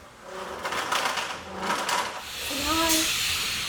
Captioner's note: ladder scraping; machines whirring